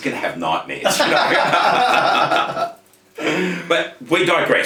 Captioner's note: both laughing